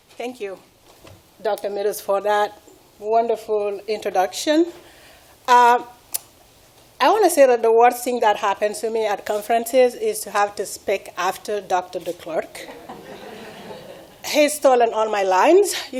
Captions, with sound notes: - Thank you, Dr. Meadows, for that wonderful introduction. I wanna say that the worst thing that happens to me at conferences is to have to speak after Dr. Declercq. (laughing) He's stolen all my lines.